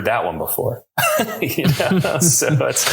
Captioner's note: both laughing